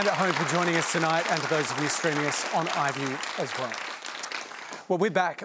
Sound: applause

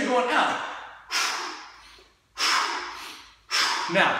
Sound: exhaling

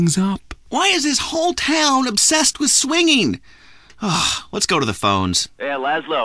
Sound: sigh

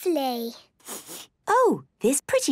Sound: sniffs

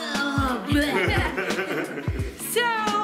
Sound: laughing

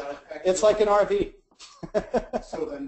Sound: laughs

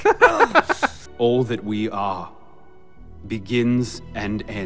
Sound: laughs; voiceover

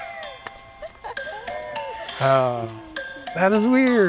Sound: laughter

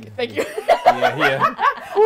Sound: laughing

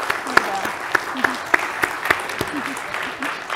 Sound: applause

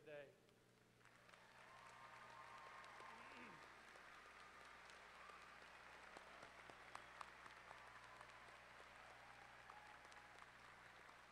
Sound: applause

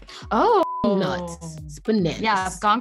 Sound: beep

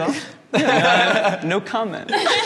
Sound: all laughing

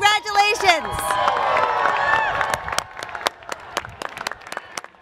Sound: applause

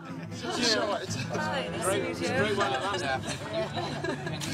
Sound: indistinct chatter

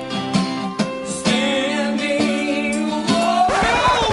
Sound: record scratches

